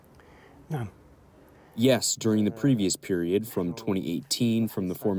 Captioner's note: through translator